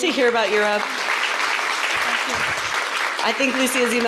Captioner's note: applause